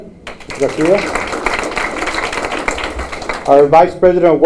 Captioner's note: applause